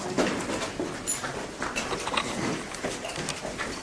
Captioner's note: footsteps